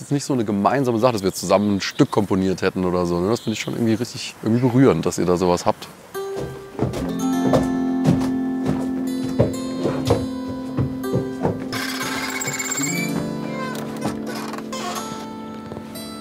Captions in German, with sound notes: trotzdem gab es nicht so eine gemeinsame Sache, dass wir zusammen ein Stück komponiert hätten. Schon berührend, dass ihr so was habt. (Sanfte Musik) (Türe quietscht.)